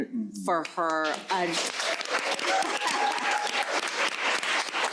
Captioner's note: crowd applauding